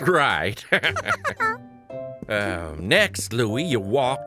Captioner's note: laughter